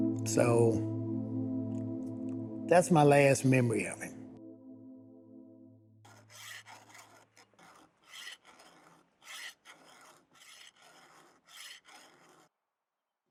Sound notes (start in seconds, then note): 0.0 melancholy music; 6.0 metal scraping